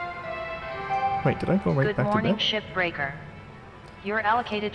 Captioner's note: Hab Voice